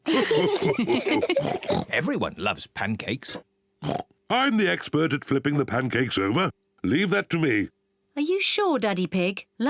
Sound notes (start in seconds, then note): 0.1 all laugh; 1.4 mummy pig oinks; 3.8 oinks